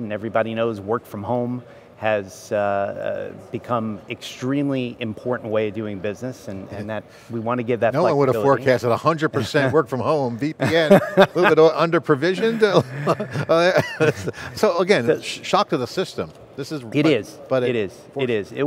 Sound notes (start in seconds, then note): 12.7 men laughing